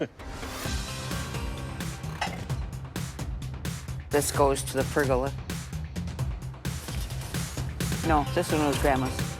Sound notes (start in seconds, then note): 1.4 intense music; 2.1 objects clattering